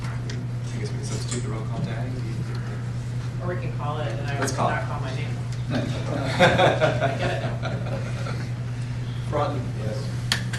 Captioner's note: laughter